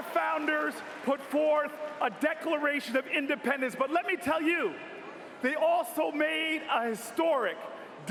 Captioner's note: cheers and applause